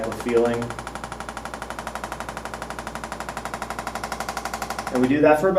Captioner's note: ArthroStim rattles